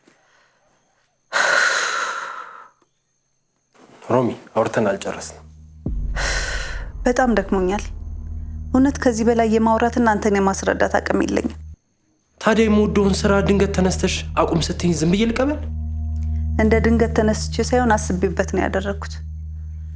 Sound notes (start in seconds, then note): 1.4 sigh